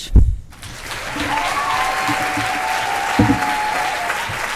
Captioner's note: applause